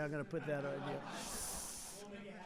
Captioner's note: laughter